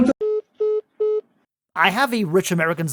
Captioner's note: phone call ending sound